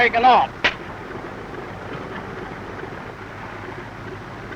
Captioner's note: slapping